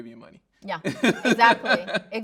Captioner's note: laughing